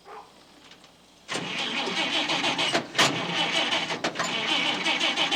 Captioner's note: motor cranking